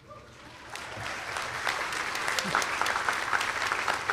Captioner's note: audience applauding